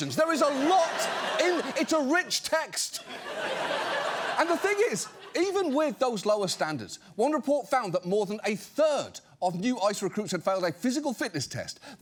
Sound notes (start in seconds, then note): 2.9 audience laughs